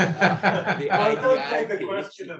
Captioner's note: all laughing